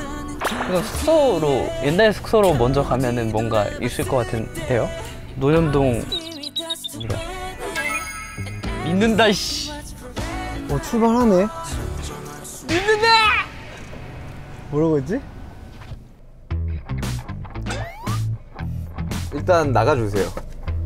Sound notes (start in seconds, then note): 12.4 shouting faith in the air